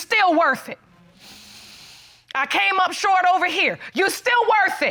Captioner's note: breathes deeply